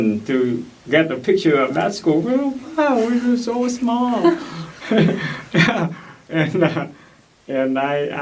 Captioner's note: laugh